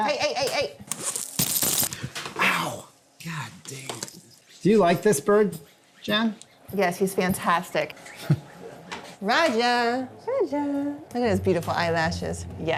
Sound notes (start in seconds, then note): 8.1 chuckles; 10.2 sing-songy